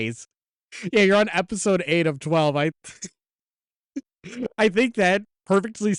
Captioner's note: laughs